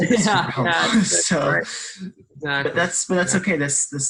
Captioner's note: laughs